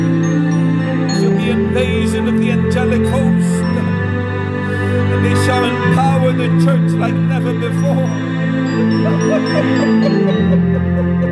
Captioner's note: weeping / llantos